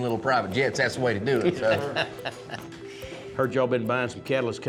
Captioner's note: laughter